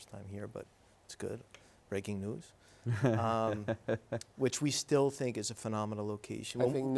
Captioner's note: laughing